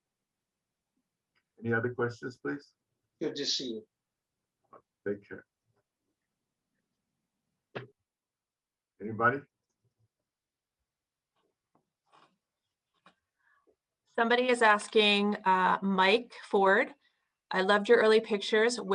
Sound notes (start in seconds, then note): 3.2 speaks in foreign language